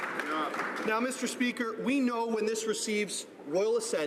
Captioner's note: some Applause